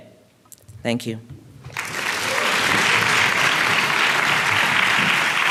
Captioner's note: applause